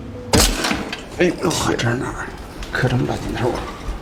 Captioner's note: exclamations